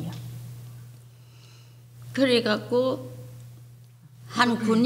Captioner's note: speaking foreign language